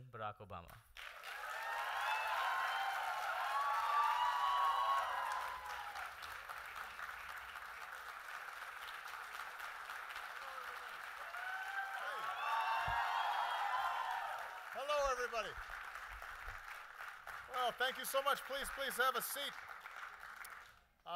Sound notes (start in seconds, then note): 5.2 applause